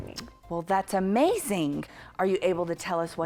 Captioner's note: clicks tongue